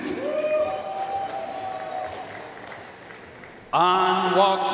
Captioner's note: audience cheering and applauding